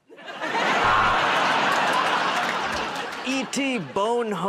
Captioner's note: buzzer